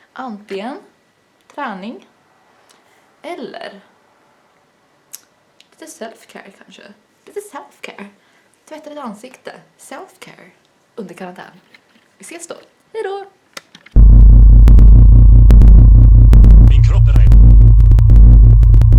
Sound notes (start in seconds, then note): 5.1 lip smack